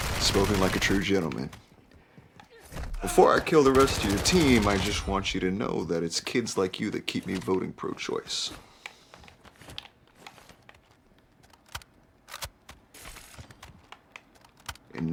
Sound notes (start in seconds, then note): 8.7 controller clicking; 12.9 gun loading on video game